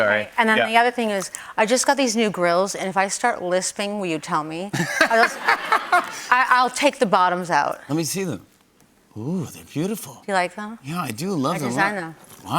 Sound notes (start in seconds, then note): 4.7 laughter